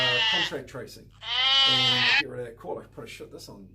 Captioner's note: sheep bleating